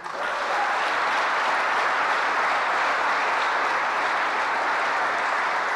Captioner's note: applause